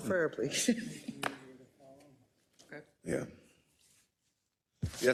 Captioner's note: laugh